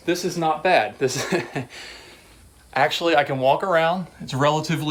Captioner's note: laughing